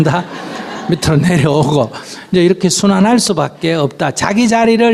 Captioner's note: audience Laughter